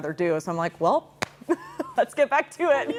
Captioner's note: laughs